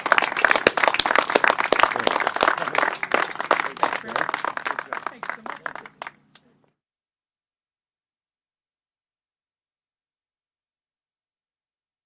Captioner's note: applause